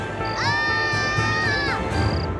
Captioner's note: Screaming